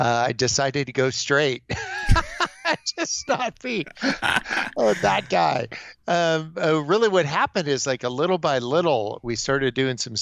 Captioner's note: laughs